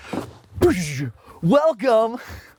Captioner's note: rustling; sound effects